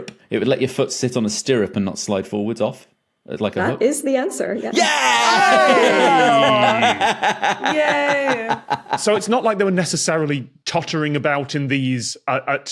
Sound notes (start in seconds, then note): 4.7 group cheering; 5.3 belly laughs